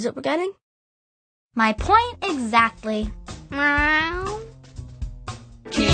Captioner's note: meow